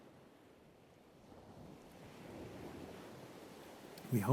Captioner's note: sound of gentle waves